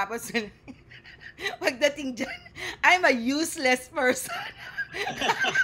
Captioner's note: laughter